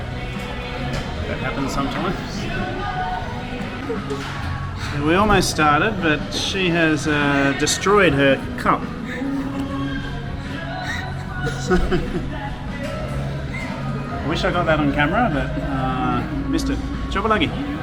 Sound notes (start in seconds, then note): 11.3 laughing